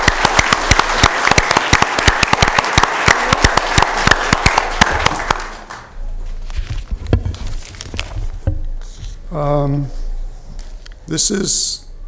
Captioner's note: applause